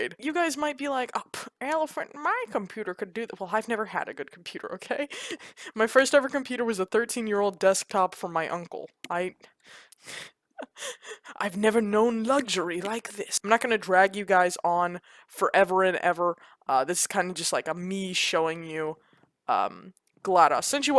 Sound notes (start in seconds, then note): 5.0 chuckles; 10.6 chuckles